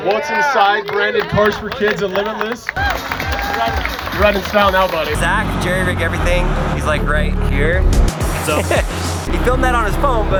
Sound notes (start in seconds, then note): 2.8 applauding; 8.3 laughs